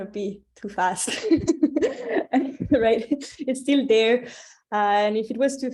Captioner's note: laughs